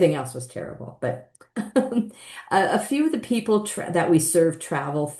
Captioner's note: chuckles